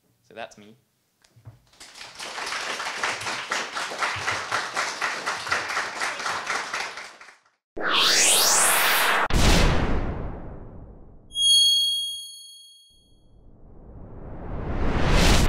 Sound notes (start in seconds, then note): 1.7 audience applauds; 7.8 electronic whoosh